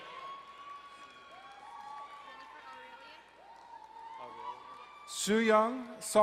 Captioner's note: crowd cheering and applauding